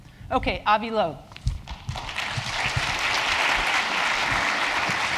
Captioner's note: applause